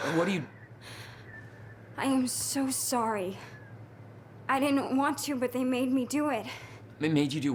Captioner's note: sobbing